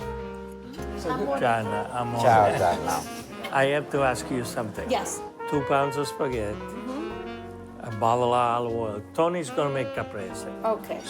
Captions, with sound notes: (group speaking Italian) - I have to ask you something. - Yes. - Two pounds of spaghetti, a bottle of olive oil. Tony's gonna make caprese. - Okay.